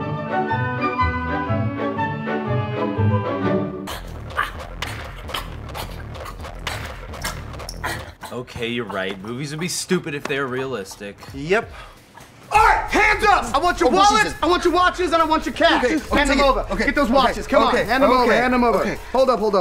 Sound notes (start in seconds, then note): 0.2 playful music; 3.8 grunting